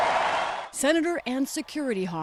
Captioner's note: cheering